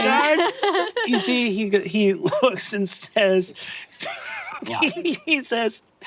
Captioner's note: laughing